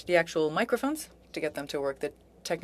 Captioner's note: speaking French